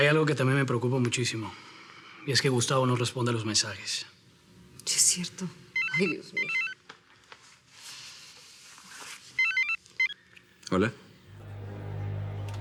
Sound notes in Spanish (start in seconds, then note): 9.3 Suena el celular